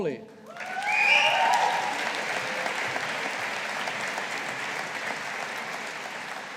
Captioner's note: audience applauding